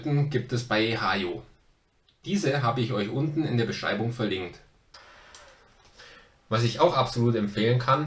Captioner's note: German